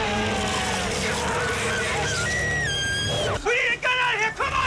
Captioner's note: dinosaur roaring; legs crunching; person screaming